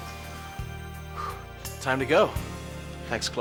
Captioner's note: blows